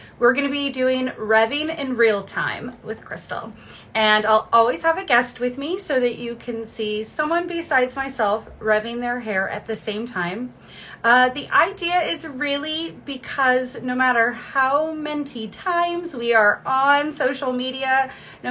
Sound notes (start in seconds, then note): none